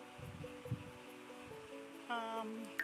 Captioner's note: sounds of a little glade